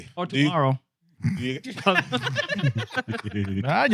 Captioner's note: laughing